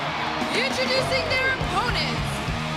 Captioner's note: crowd cheering